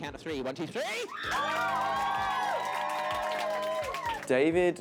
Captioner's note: audience screams